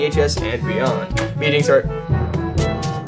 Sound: kiss

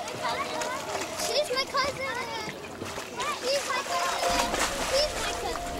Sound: kids chattering; delicate music

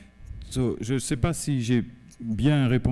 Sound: speaking french

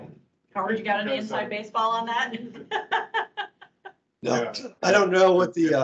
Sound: laughs

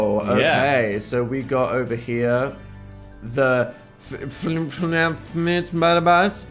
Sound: babbles

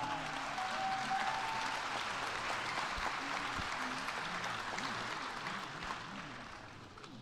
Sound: applause

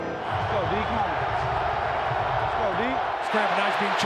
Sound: crowd cheering

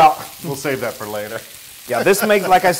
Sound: laugh

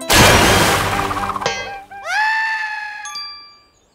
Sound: playful music playing; water crashing; dramatic music playing; screaming

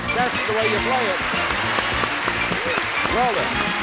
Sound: applause

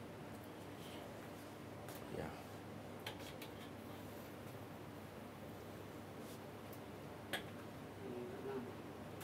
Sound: ambient kitchen noise

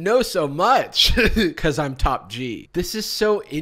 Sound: chuckles

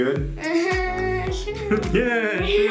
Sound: nervous laughing

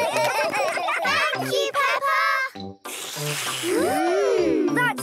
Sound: all slurping

